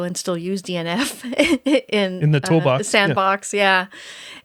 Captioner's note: laughing